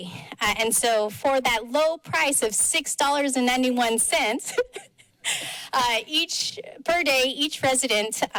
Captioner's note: laughs